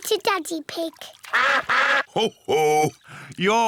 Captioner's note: all quack